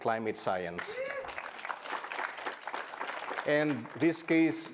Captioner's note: audience cheering and applauding